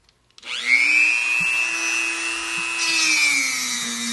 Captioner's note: Dremel buzzing